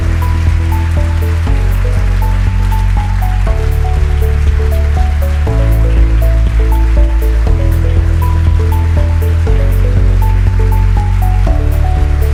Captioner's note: applause